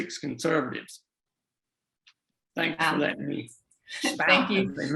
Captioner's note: faintly speaking